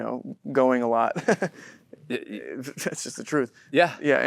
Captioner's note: Timothée laughs